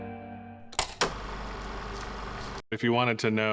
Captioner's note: film reel flapping